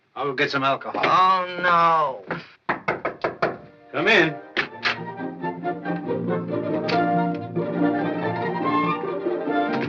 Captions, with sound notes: I'll go get some alcohol. Oh, no! [ Knocking on door ] Come in. [ Jaunty upbeat theme playing]